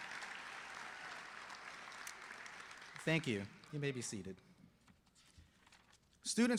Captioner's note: applause